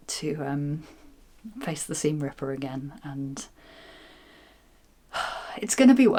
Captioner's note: sigh